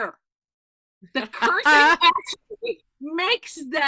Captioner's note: laughing